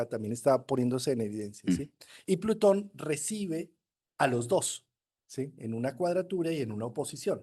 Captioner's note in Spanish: carraspeo